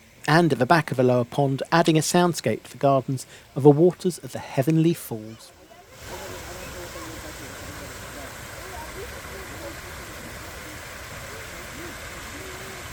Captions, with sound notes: And at the back of the Lower Pond, adding a soundscape to the gardens are the waters of the Heavenly Falls [SOUND OF WATERFALLS]